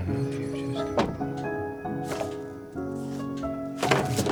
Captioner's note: car door thuds